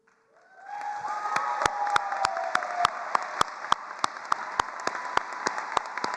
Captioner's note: attendees cheering and applauding